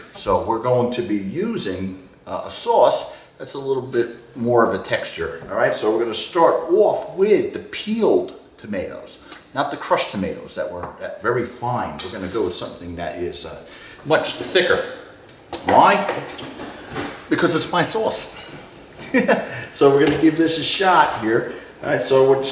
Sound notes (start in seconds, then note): 19.0 laughs